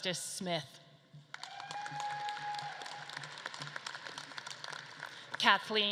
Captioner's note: audience claps and cheers